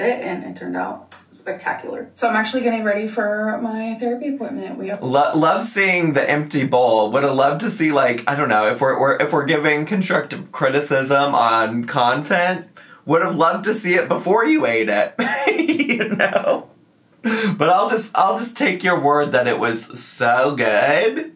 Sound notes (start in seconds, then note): 15.1 giggles